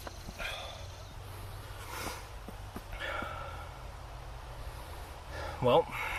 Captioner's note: sighs